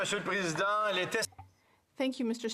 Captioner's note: some Applause